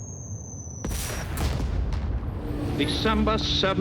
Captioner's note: bombs explode